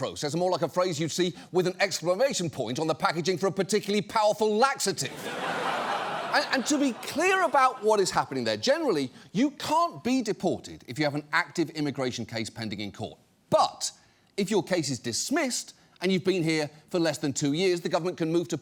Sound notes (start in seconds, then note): 5.0 studio audience laughs